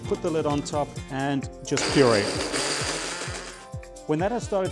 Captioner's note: blender whirring